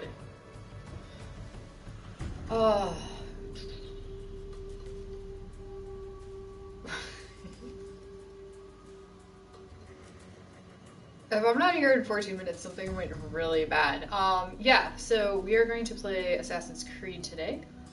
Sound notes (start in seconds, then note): 2.5 sighs; 6.9 laughs